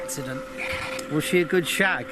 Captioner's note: continuous crackling sound of the spirit box is heard